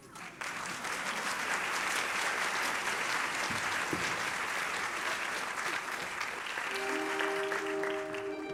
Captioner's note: applause